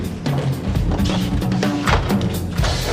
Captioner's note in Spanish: puerta de vehículo abriendose